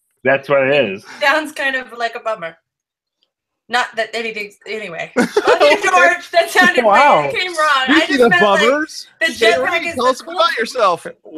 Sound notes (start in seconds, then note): 5.1 laughing